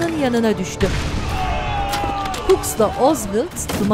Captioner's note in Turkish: Patlama sesi; Çığlık sesleri; Silah sesleri